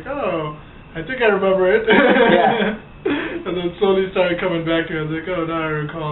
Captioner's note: laughs